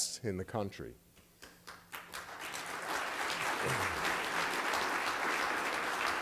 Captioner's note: applause